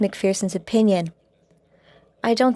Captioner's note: speaking French